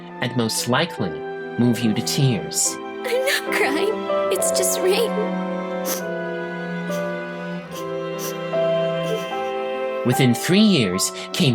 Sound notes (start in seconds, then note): 5.9 sniffling